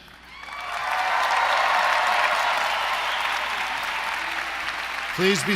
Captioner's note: applause